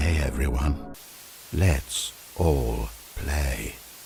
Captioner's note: static